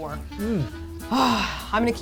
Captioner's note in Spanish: Largo suspiro